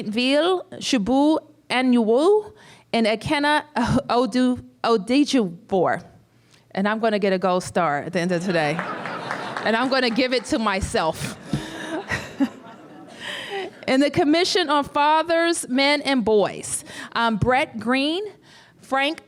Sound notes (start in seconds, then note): 8.7 applause; 11.3 laughter